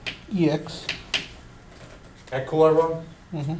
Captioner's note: voiceover